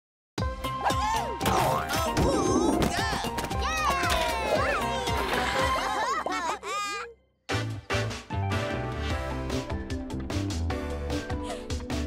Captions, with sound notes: - Woo-hoo! - Awooga! - Yay! (laughing) (upbeat music)